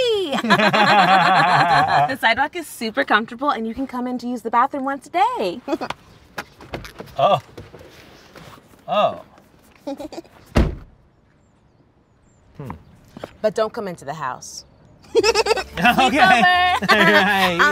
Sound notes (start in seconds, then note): 0.3 Ian and Jackie laugh; 6.3 giggles; 9.8 Jackie giggles; 15.1 giggles